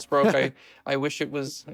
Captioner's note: laughs